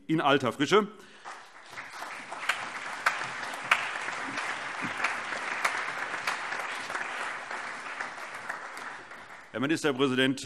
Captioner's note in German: Allgemeiner Beifall